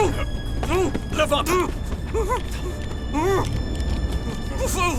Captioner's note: muffled screaming continues